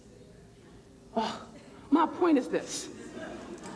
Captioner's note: sighs